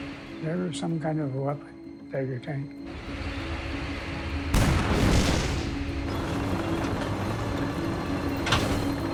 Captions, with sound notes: - There is some kind of a weapon, Tiger tank. (shell firing) (dramatic music)